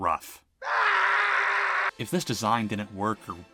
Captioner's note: painful screaming